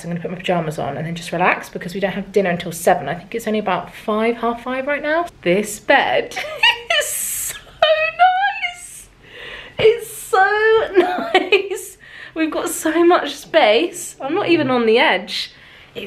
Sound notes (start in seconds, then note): 7.3 giggles; 11.5 laughs